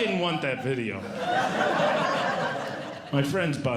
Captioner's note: audience Laughing